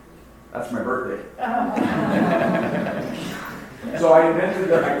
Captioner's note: audience laughs